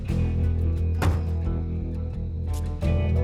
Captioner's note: closes car door